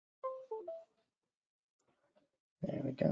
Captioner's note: beep